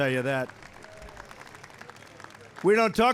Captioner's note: applause